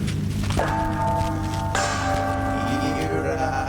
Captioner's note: gong sounds